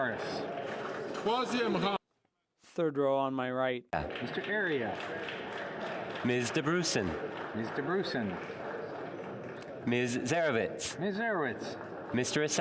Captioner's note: calling of recorded vote